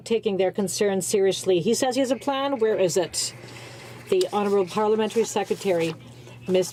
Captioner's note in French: voix de l'interprte